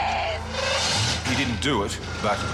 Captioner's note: engine rumbling